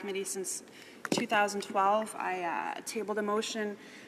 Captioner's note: speaking French